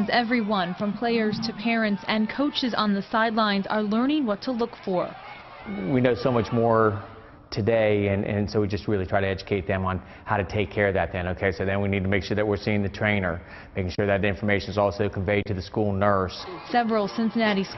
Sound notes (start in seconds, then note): 3.4 cheering